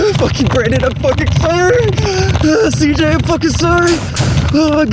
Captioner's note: heavy breathing